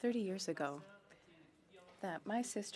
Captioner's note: speaking French